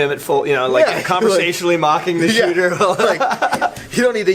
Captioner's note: laughs